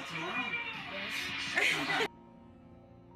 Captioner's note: laugh